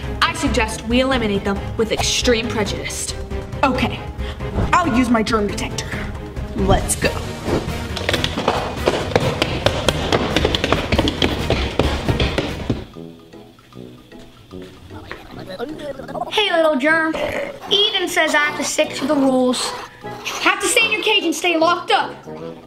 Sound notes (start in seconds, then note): 7.2 footsteps clattering; 14.6 gibbering